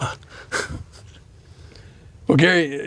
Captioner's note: chuckling